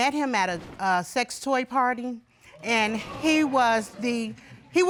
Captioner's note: audience gasps